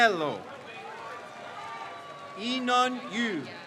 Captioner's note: crowd cheers